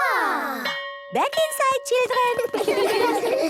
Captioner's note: school bell